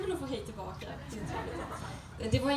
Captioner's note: soft laughter